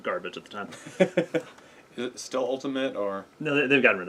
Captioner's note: laugh